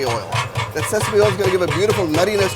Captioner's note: jar banging pot